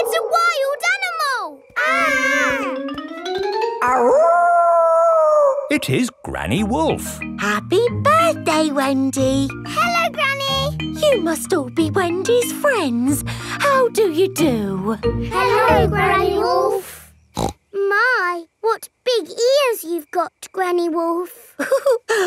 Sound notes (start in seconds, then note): 1.7 kids yelling; 3.8 howling; 17.4 snorts